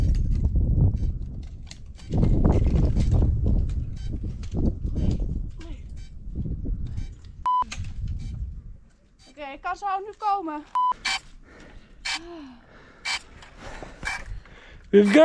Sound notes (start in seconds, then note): 0.2 branches rustling; 7.4 camera beeps; 12.7 drone beeping